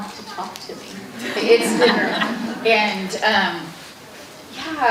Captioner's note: audience laughing